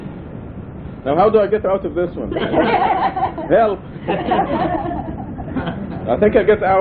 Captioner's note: laughter